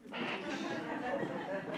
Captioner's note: laughing; mimics CB radio